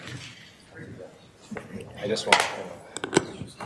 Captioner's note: murmuring